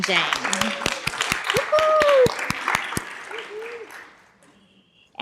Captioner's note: applause